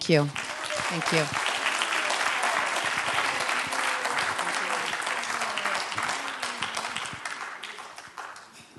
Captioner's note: applause